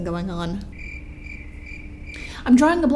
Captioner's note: crickets